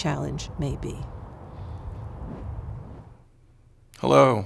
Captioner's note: air whooshing